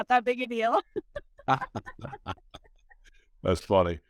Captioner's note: laughing